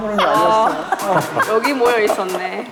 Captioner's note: haha